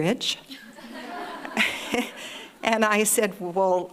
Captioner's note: audience laughing